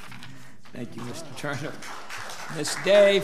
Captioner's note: audience applauds